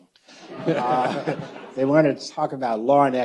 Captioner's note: audience laughs